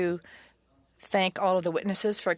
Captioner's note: speaking french